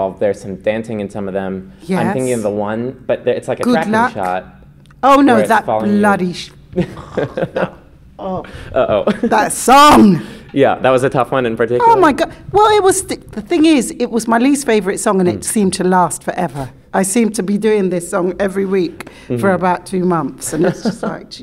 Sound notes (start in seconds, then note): 6.5 groans; 6.8 laughing